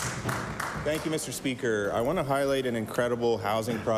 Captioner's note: applause